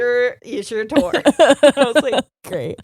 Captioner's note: laughing